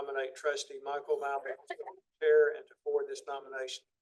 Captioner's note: audio warbles